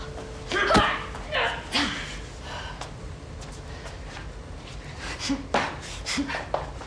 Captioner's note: fist thudding; Riley grunting